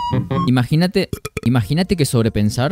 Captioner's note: burp